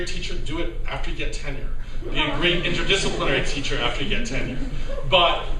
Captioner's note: laughter